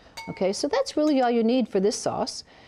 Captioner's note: clinking